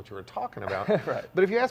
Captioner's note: laughing